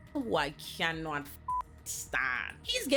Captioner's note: beep